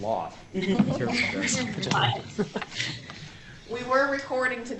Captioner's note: indistinct chatter